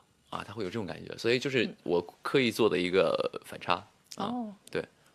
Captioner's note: switched back to mandarin